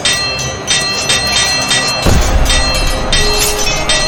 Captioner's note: swords clanging; explosion booming